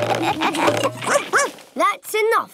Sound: all laugh; barks

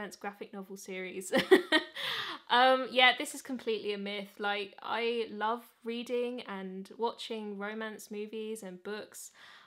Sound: laughs

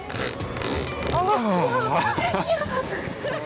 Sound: both sigh in relief; laughing

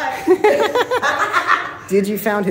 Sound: insane laughter

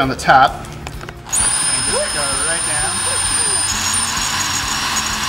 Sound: whining sound of drill

